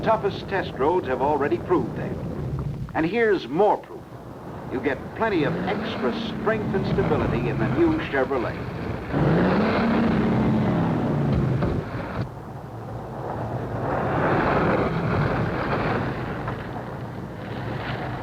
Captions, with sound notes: The world's toughest test roads have already proved that. And here's more proof. You get plenty of extra strength and stability in the new Chevrolet. (car engine revving) (car skidding)